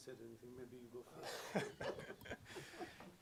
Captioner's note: laughter